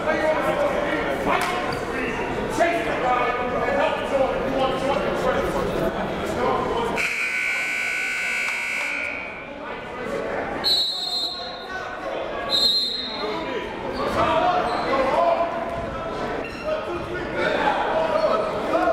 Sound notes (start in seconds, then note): 7.0 buzzer; 12.4 whistle